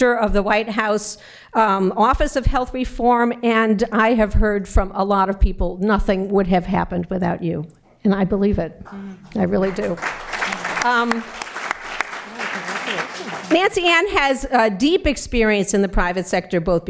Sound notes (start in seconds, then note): 9.5 applause